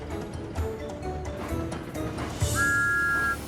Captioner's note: whistle toots